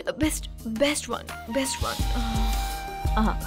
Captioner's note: Sucks teeth